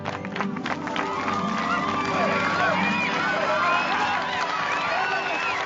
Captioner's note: cheering